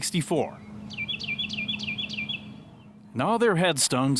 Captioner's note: birds chirping